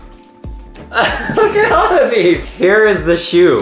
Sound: laughs

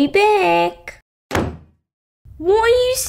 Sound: slam!

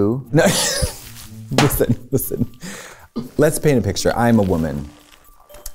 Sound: laughs

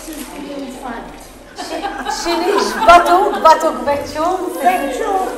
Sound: laughter

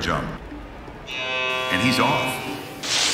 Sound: buzzer buzzing

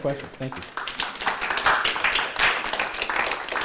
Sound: applause

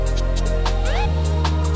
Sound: SFX: Siren whoop!

